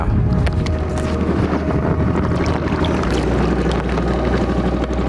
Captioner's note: engine rumbling